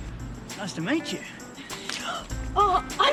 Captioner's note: Alison gasps